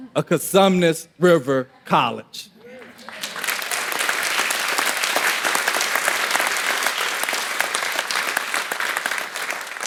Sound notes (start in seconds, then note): 2.8 audience applauding